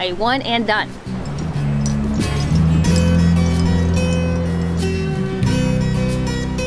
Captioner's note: mellow guitar music; seashells clinking